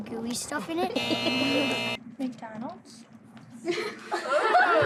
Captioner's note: laughing